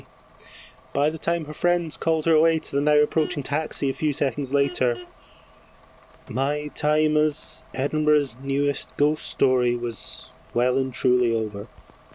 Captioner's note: fx: car horn